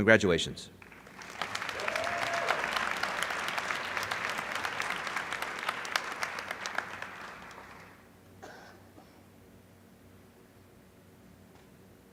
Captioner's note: applause